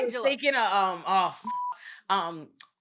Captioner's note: beep